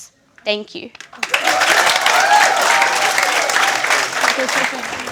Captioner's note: cheering and applause